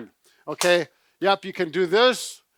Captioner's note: clapping